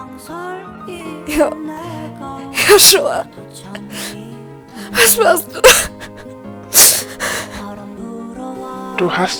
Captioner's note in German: crying